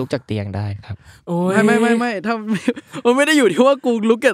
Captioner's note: laugh